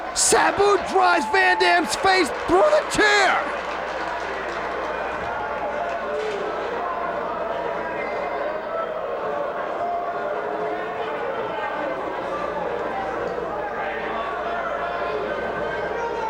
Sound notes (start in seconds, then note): 3.6 spectators applauding